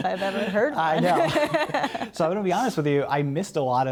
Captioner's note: laughter